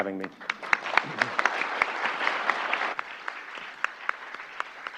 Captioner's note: applause